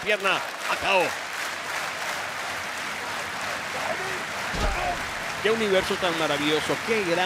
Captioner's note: applause